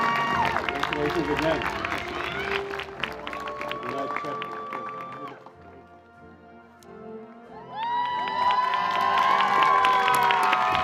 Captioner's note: cheers and Applause